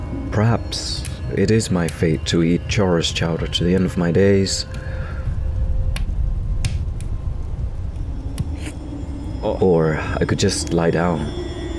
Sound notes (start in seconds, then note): 0.0 cackling fire; 8.3 sip